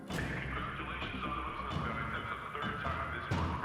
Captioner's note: loudspeaker